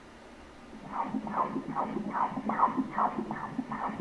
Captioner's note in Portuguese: som dos batimentos cardíacos